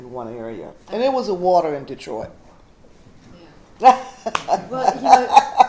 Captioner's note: laughs; stutters